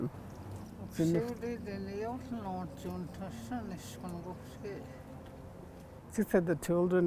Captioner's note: speaking in foreign language